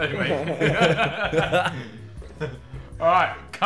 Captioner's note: laughing